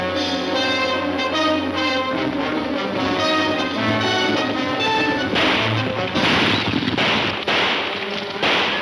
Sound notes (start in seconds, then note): 5.2 gunfire pops